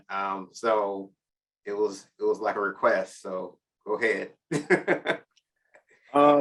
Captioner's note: chuckles